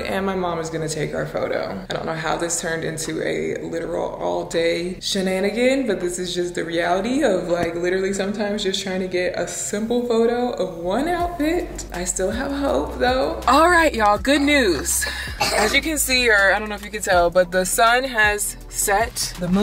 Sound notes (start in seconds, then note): 14.1 coughing